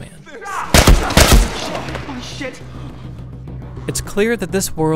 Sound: gun firing

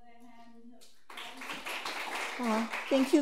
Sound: audience applauds

